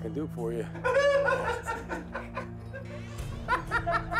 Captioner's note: laughter